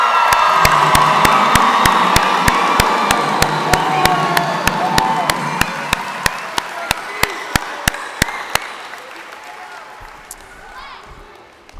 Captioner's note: cheers and applause